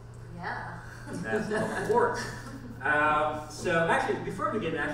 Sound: laughs

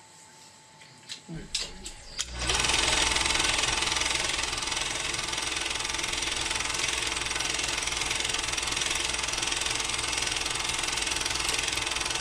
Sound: projector flickers on

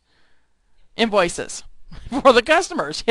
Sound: laughing

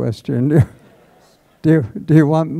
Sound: laughter

